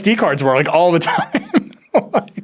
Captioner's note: laughs